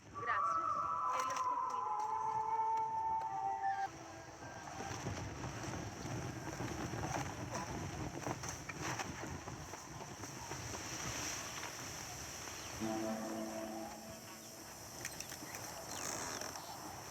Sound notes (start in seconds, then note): 0.0 screepy music; 3.8 sounds of wind and fire; 9.9 sounds of wind; 16.9 crickets scream and music